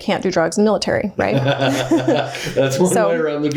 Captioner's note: laughing